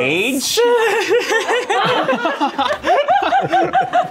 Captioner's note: laughter